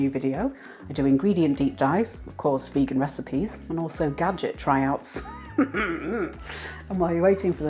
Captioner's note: laugh